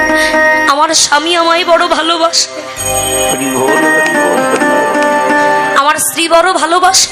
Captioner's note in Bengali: ঘণ্টা